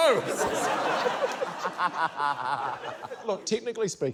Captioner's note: laughter